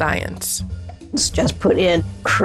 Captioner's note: soundbite of archived recording